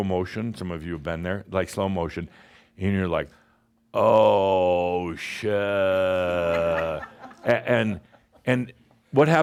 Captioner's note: more chuckles